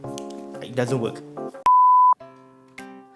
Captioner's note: beep